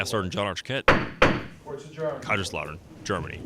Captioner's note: hammer sound